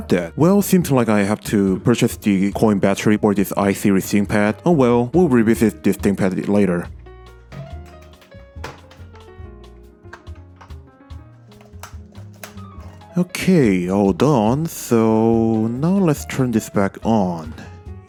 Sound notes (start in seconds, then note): 9.7 JST connector clicks into the board; 11.4 keyboard clips clicks